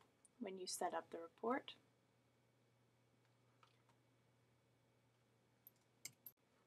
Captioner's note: silence